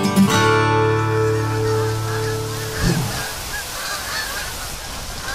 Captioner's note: geese Honking